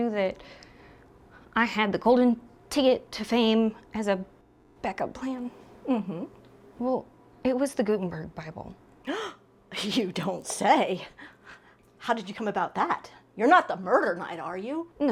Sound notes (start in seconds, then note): 9.0 Hilda gasps